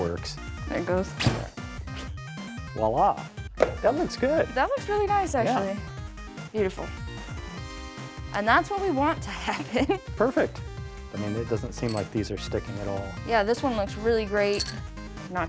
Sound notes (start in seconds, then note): 2.1 hotel thumps